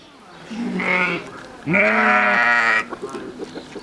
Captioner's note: sheep complaining